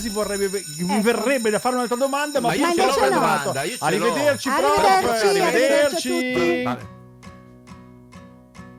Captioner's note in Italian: suona la campanella